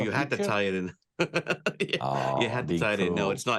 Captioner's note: laughs